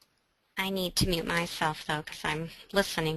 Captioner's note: voiceover